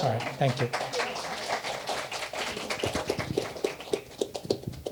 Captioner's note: applause